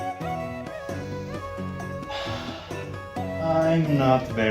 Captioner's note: deep inhale and sigh